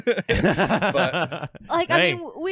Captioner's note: laughing